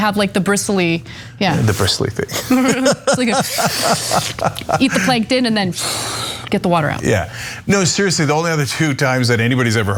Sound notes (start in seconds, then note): 2.3 laugh